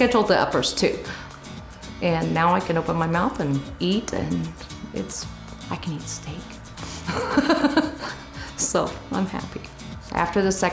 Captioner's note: laughs